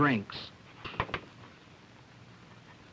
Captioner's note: chalk tapping